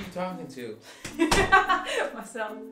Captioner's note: laughing